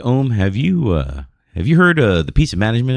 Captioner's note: uh